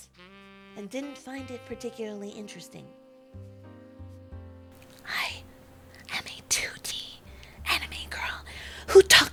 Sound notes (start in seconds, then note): 4.5 voice drops to a whisper